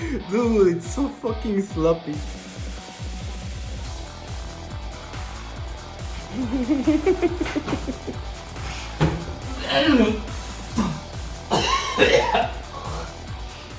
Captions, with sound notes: Duuude it's so fucking sloppy. [Cackles] [Retches]